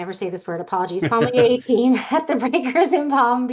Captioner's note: chuckling